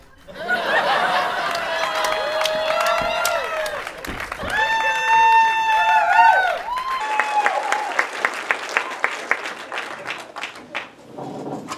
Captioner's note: audience laughter and applause